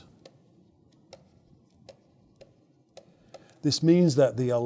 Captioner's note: stylus tapping against screen